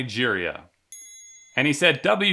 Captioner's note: chime rings